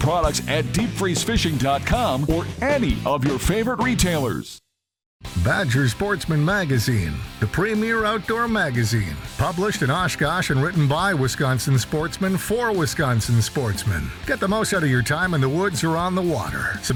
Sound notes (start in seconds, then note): 5.4 voiceover